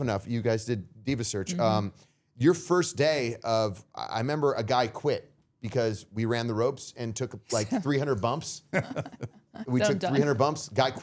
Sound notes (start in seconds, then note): 8.7 all laughing